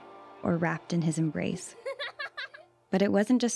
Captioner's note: children giggling